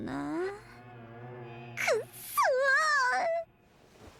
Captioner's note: ugly cry screaming